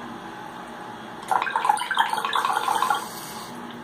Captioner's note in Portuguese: sound of water